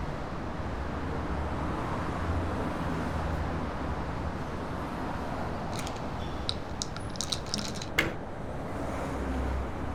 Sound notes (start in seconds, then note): 5.7 pills rattling; 7.5 hands slap